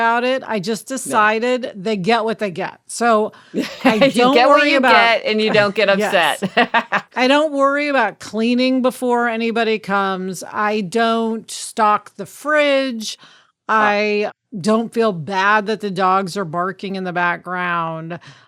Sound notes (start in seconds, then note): 3.5 laughing